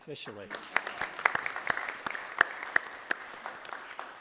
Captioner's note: applause